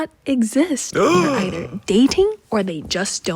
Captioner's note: gasping